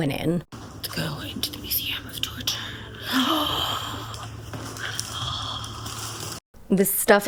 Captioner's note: hoots